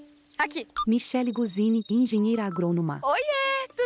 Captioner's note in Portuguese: Ruídos de mata; Celular tocando